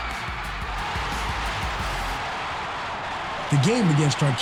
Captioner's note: crowd cheering